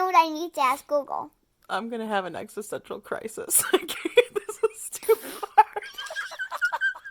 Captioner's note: cracking up